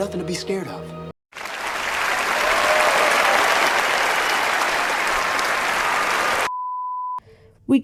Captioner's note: applause